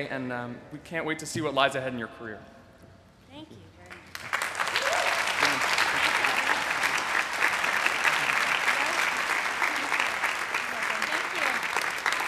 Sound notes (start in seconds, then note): 4.3 applause